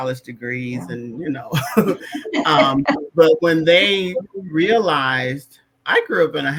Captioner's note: laughter